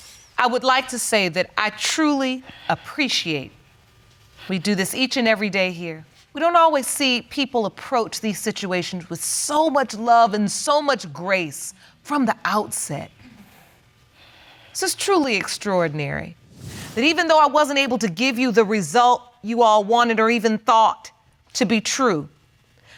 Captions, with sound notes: I would like to say that I truly appreciate... We do this each and every day here. We don't always see people approach these situations with so much love and so much grace from the outset. (SIGHS) This is truly extraordinary. And even though I wasn't able to give you the result you all wanted or even thought to be true,